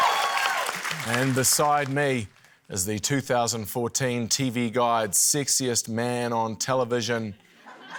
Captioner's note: cheering, applause; laughter